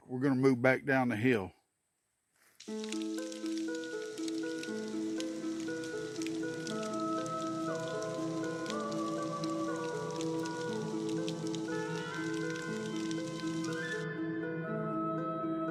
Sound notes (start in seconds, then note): 2.7 fire crackling; 2.7 soft dramatic music; 6.6 eerie vocalizing